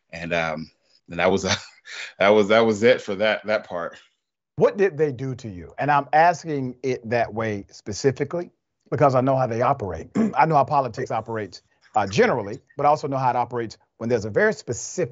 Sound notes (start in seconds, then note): 1.2 laugh; 10.1 cough